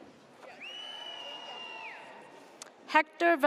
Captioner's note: audience cheers